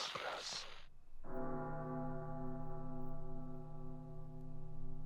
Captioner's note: large bell tolling repeatedly